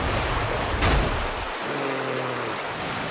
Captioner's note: groans